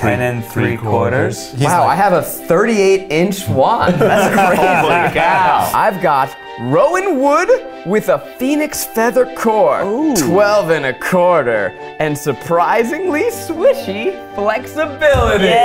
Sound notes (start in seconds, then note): 3.8 laughs